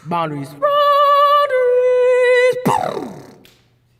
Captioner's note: beatboxing